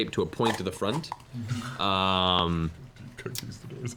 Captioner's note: laughing